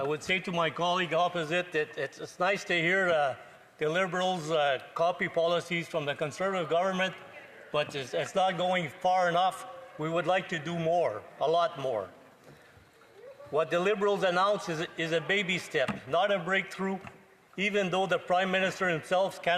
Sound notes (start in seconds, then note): none